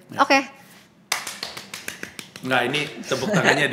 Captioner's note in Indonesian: suara tepuk tangan